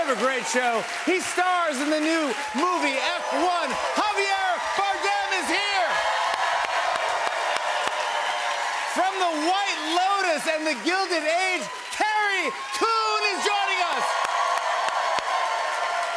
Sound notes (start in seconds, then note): 6.6 cheers and applause